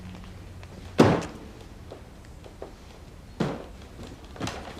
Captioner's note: door slamming